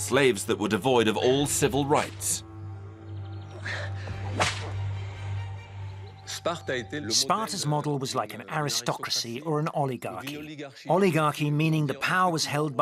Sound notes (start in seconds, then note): 4.2 whip snapping; 6.4 speaking in foreign language